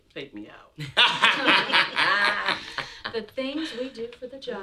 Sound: laughing

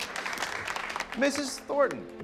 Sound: class applauds

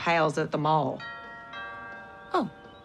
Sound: doorbell ringing

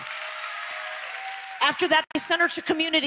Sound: audience applause

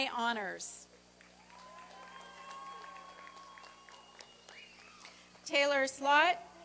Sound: applause and cheering

